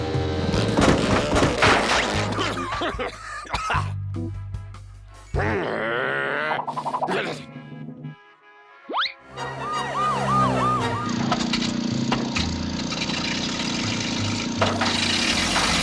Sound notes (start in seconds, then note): 0.1 motor sputters; 2.2 coughs; 5.4 growls; 8.5 sirens blare; 11.4 motor sputters, whirs; 13.7 motor sputters, stops